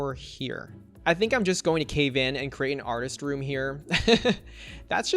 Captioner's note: laughs